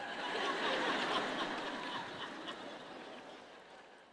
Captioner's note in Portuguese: público rindo